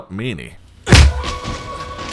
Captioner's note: hit